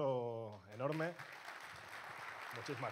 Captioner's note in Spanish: aplausos